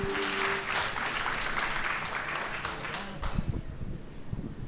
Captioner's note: audience applause